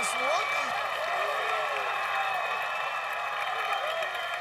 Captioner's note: cheers and applause